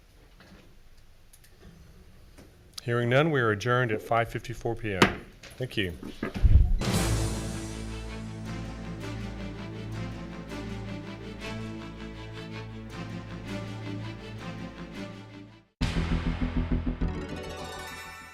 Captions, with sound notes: Hearing none, we are adjourned at 5:54 PM. (gavel banging) Thank you. (intense music)